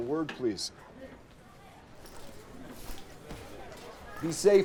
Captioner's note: students chattering